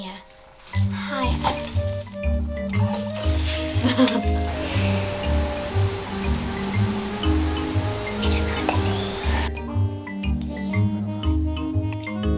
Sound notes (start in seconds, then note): 3.3 laughter; 7.5 whispers